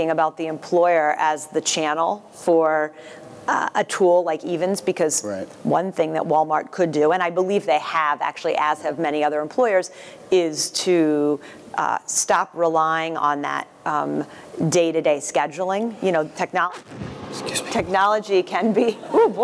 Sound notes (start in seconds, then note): 16.6 loud sneeze accentuated by sound system thud